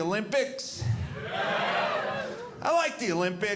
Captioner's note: audience cheering